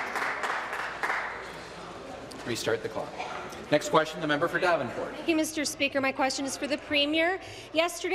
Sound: applause

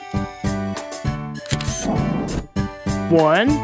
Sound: SFX: Camera Shutter

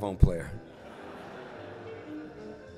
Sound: laughter; jazz music

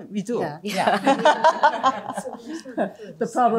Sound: laughter

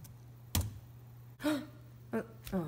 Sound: gasps in excitement

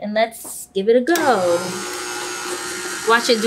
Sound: mixer whirring

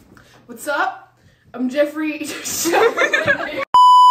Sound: giggles

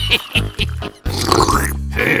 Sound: intensive french slurping

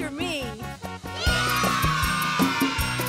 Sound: cheering

